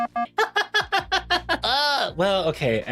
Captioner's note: laughing